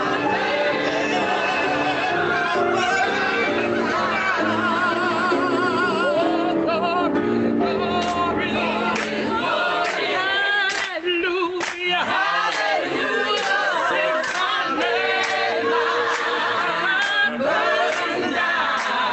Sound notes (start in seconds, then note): 8.4 piano cuts out; 14.2 clapping starts